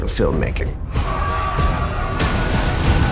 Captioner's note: alarm